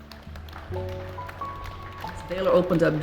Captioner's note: audience clapping